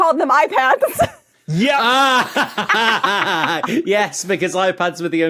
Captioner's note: laugh